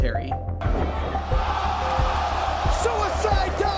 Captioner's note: crowd roaring